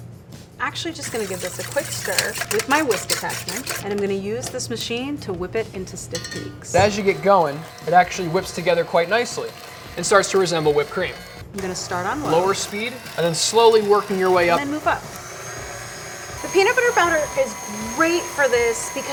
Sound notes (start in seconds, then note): 15.7 machine whirring